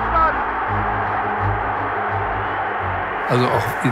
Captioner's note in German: Applaus